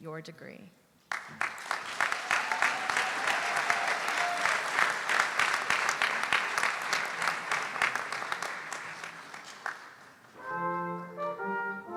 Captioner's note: applause